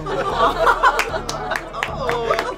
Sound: audience cheering

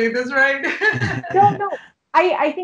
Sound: chuckling

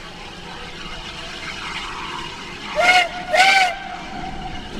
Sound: Two blast from OY whistle, locomotive respond

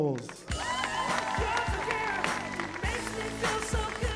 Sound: upbeat music; cheering

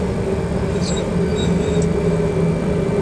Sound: rudder pedals squeak

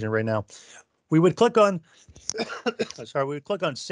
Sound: coughs

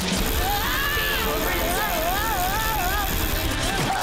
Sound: screaming

